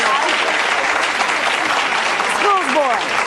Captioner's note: audience applauding; overlapping chatter